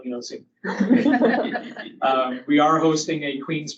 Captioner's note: audience laughing